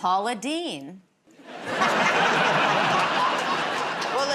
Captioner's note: laughter